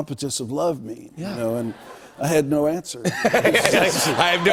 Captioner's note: laughter